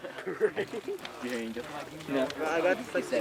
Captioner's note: laughs